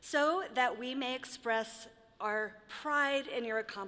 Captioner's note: none